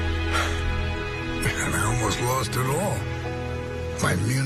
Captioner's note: sighs